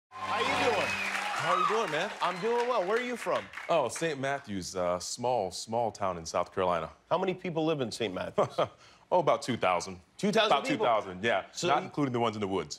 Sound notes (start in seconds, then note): 2.4 cheers and applause